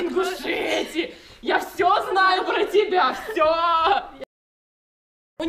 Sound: a very nervous laugh

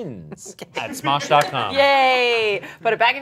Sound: laughing

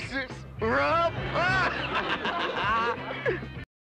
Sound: laughs at his own joke

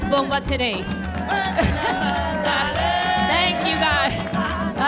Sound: audience cheers

